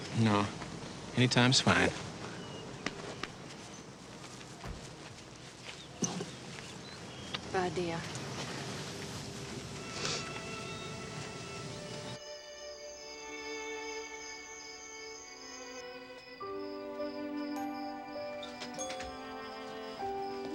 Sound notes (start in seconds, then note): 9.8 somber music; 12.3 insects chirping; 16.5 mellow music